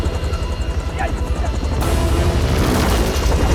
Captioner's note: Kang Speaking Korean